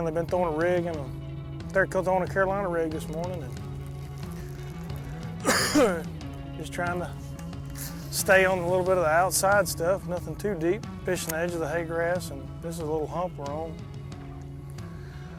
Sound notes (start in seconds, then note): 5.4 coughs